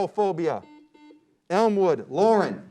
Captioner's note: beep